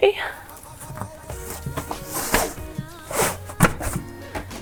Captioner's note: rustling